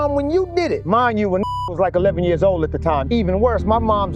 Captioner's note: beep